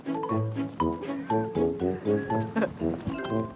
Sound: hehehe

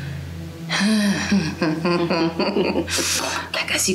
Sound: laughing forcefully

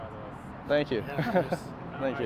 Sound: laughs

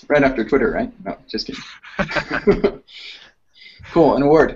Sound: laughs

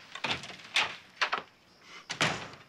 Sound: door opening

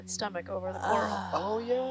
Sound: woman gasping

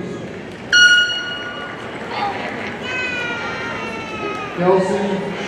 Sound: party blower squeaking

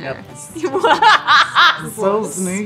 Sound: laughter

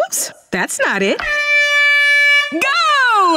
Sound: horn blowing

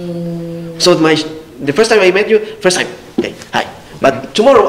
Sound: shakes hands

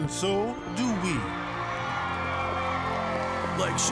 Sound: fans cheering

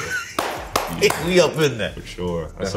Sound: claps

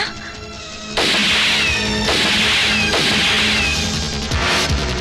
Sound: gun Firing

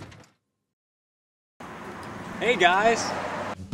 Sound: crashing

